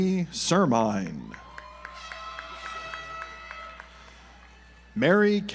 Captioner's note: audience applauds